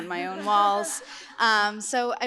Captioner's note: laughter